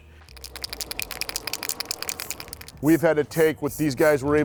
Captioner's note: can shaking